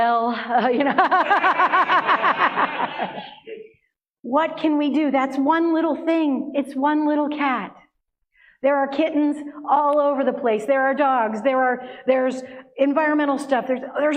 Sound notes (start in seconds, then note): 0.4 laughter